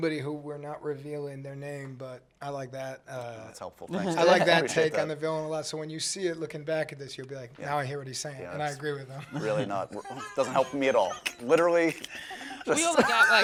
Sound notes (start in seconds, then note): 10.0 laughing